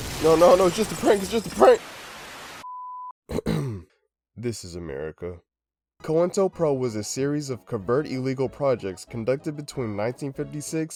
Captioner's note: ahem